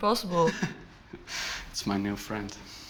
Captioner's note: chuckles